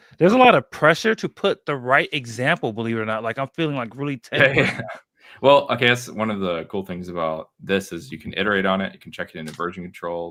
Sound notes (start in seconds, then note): 4.3 laughs